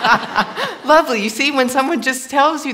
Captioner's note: laughter